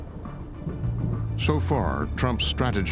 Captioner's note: thunder rumbling